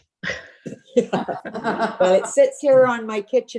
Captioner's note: laughing